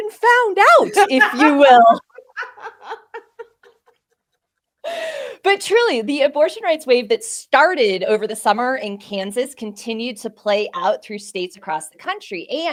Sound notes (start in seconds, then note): 0.9 both laughing